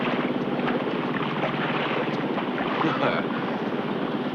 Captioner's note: Eddie chuckles